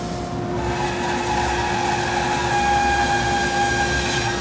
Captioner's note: machine whirring